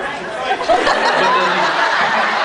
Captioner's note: laughs